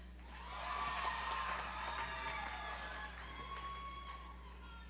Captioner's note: audience applauds